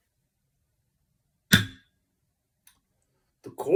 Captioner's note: gavel